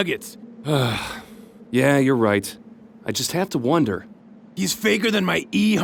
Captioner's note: sighs